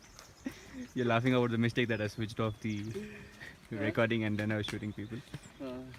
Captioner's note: laughs